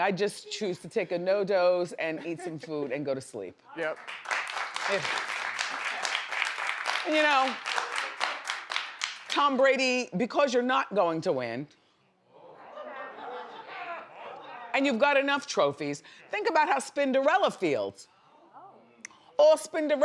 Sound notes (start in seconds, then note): 3.8 audience clapping; 12.5 audience laughs